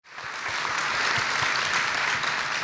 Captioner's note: applause